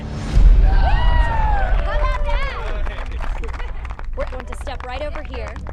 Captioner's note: cheering